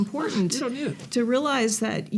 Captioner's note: scoffs